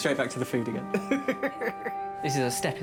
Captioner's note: laugh